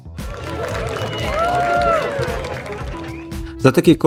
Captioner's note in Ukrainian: оплески